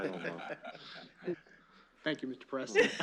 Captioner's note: laughter